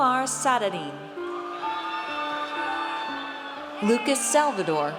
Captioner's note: audience cheers